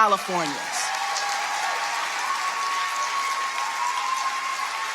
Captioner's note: audience applauding